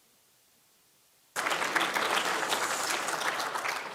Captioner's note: applause